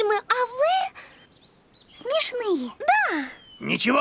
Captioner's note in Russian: Шепчет